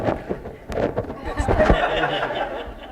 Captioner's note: laughter